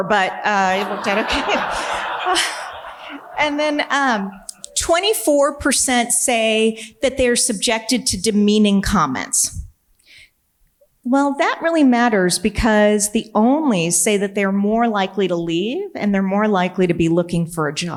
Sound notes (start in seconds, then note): 0.2 audience laughing